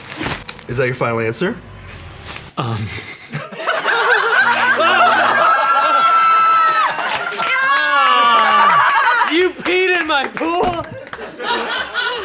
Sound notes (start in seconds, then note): 4.4 everyone cheers